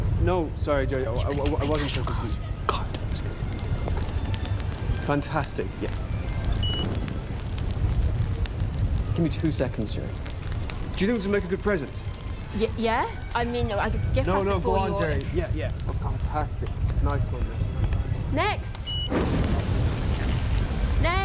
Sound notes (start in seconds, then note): 6.6 card machine beeps; 18.8 card machine beeps